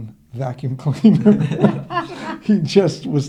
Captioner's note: laughing